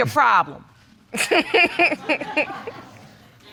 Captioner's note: and audience laughs